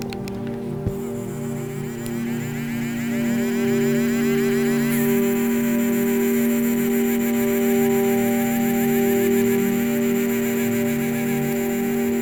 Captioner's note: mechanical tool motor